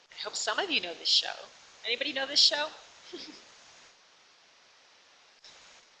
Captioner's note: laughs